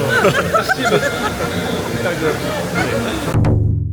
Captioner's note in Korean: 그냥 신난 한 아주머니의 웃음소리